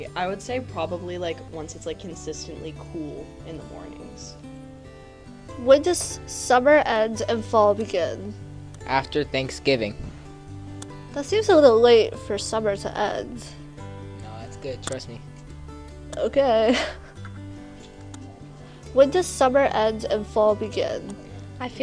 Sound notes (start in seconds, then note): 16.6 laughs